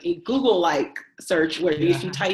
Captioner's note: chuckles